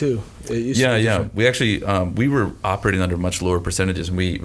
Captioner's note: none